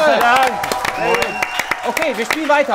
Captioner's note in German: Jubel, Applaus